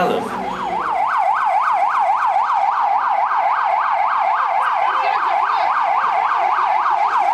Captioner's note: ambulance sirens